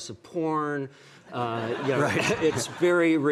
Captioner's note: audience laughing